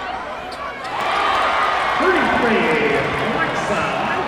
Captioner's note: cheers and applause